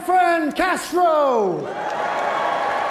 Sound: audience cheering

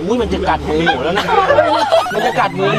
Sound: shouts

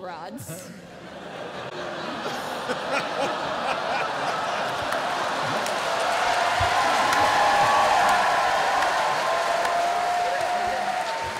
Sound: cheering

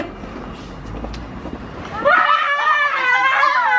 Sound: screaming

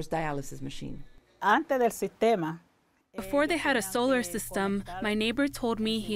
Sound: through translator

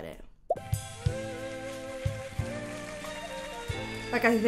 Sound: dramatic music resumes; audience clapping

